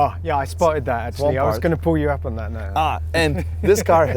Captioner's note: laughs